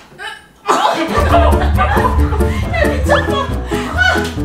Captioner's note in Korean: 웃음